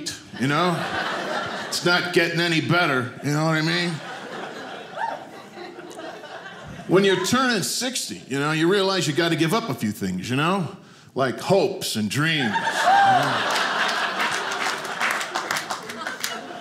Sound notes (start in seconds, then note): 0.3 audience laughing; 12.3 audience laughing